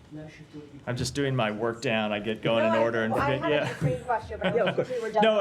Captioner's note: laughter